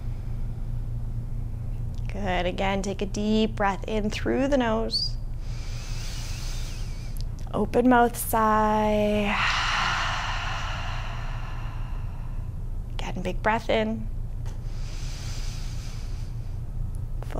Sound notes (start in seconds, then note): 9.1 deep exhaling; 15.6 deep inhaling